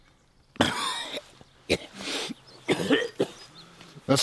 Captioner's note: coughing